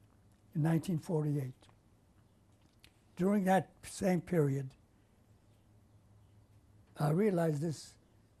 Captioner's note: pauses for 3 seconds